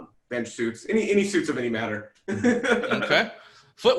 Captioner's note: laughs